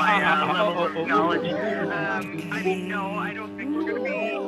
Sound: laughing

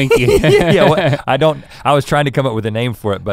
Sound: laughs

